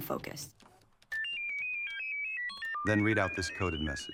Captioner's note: display beeping